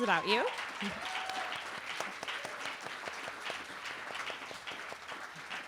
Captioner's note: cheering